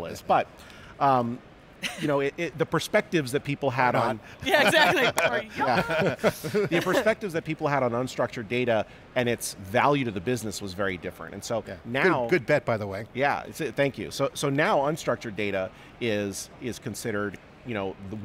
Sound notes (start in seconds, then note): 4.4 all laughing